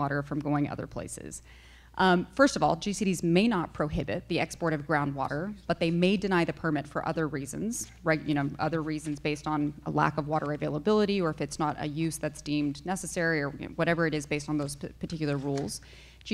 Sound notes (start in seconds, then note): none